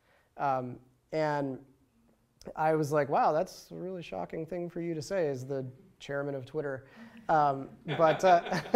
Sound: laughter

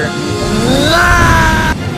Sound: anger screams

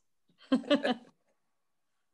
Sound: laughs

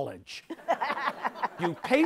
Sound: audience laughs

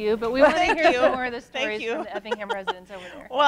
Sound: laughing

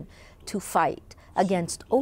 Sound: speaking alternate language

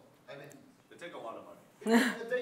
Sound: none

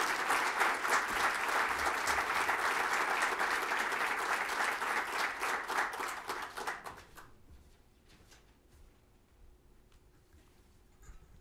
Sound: applause

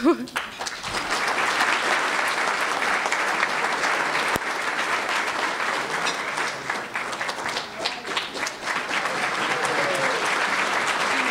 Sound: applause

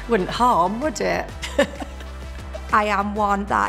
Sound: laughs

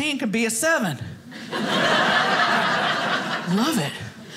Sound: audience laughing

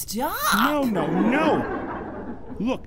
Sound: studio audience laughing

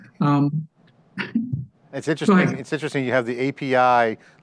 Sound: laughs

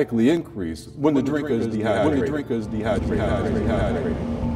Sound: echoing

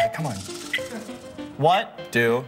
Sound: cuckoo sound

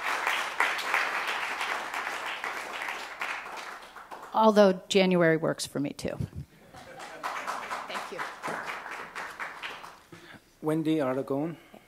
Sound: applause

